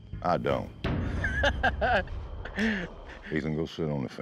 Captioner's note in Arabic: ضحك